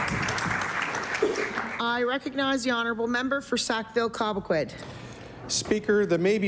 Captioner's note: applause